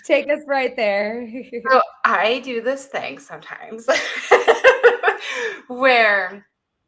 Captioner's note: laughs